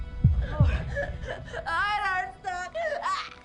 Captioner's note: crying